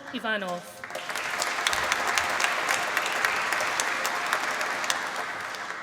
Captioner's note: applause